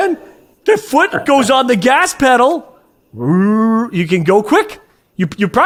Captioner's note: imitates car revving